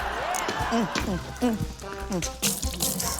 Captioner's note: laughter; grunts